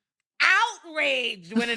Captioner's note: beep